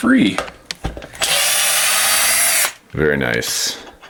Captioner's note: whirring